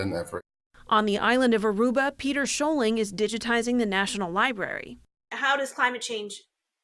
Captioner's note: voice-over